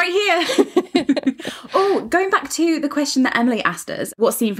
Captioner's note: laughing